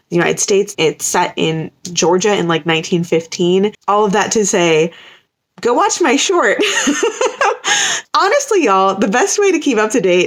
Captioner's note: laughter